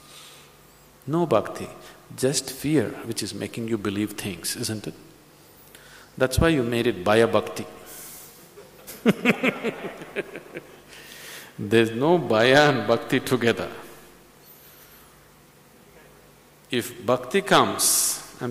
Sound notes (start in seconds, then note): 8.6 laughs